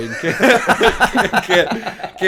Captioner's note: laughter